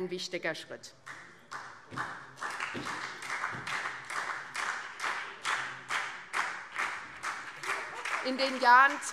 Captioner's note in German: Beifall SPD und BÜNDNIS 90/DIE GRÜNEN